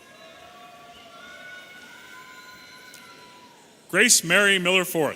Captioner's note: audience cheering